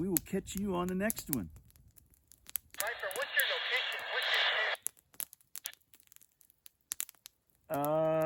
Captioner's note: radio voice